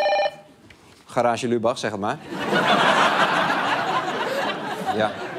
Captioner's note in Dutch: gelach